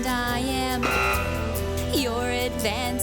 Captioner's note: buzzing